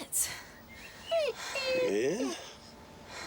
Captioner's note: wolf whines